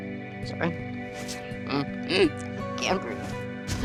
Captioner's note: gasping